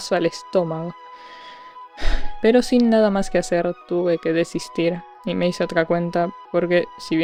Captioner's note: sigh